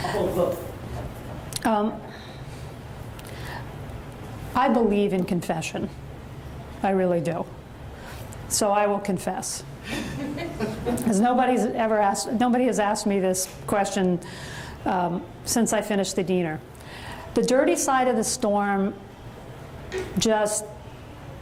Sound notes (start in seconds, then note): 10.0 audience chuckles